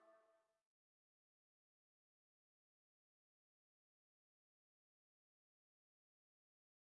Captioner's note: silence